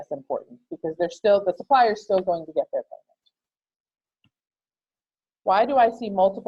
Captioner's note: click